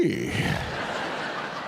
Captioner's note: audience laughs